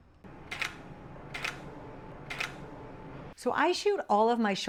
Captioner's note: camera clicking